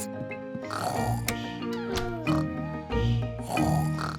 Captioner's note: both snoring